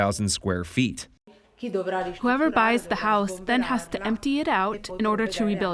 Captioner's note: through translator